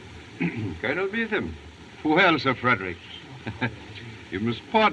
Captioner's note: chuckles